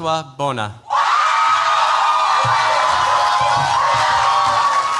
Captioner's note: cheers, applause